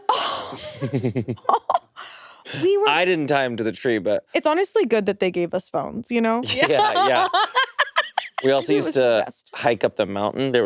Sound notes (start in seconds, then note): 0.0 all laughing; 6.4 laughs